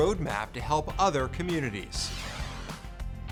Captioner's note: graphic wooshes